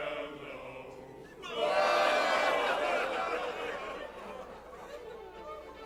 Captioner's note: pirates cry